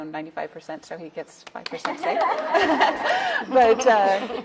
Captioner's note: audience laughing